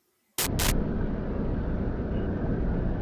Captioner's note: static bursts